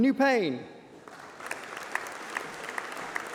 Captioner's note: applause